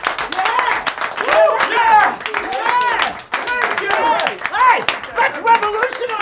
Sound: clapping; clapping and cheering

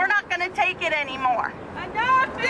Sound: chanting

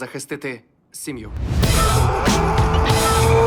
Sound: screaming; motorcycle accelerating

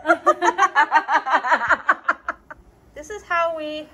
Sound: both laugh

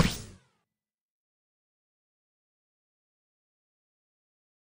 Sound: silence

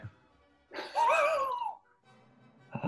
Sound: chuckling

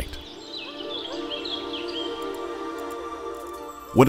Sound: birds chirping

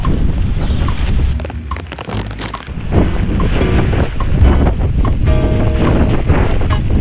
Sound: wind & rain & tarp flapping about

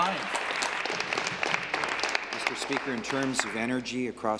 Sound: applause

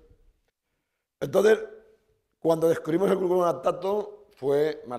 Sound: speaking spanish

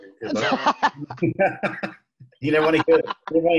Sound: laughing

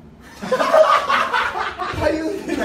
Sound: laughing

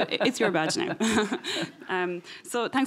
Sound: chuckling

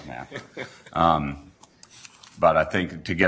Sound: laughter

